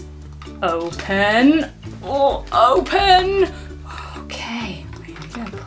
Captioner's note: grunts